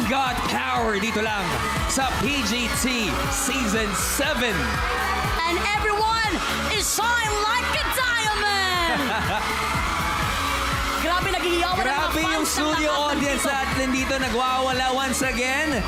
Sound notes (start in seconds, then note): 9.4 robi chuckles; 10.4 audience cheering